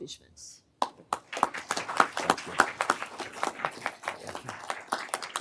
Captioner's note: everyone applauding